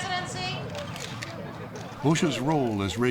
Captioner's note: camera shutters clicking